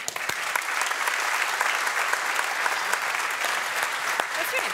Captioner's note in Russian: публика аплодирует